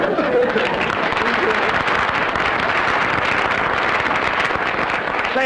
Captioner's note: applause